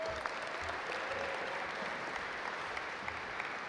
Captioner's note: audience applaud